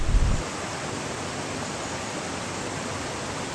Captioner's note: rain noise